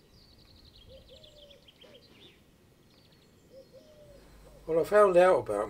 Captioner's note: birds chirping